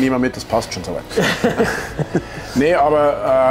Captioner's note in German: lachen